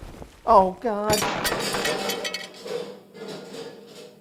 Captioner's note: pots and pans crashing